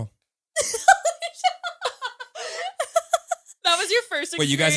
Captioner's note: all laughing